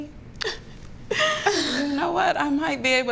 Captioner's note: chuckles